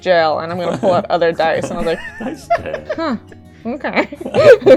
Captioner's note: laughs